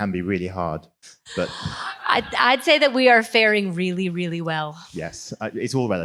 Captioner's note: laugh